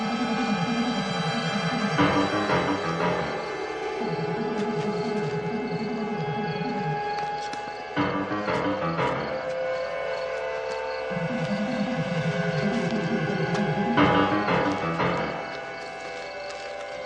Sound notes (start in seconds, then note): none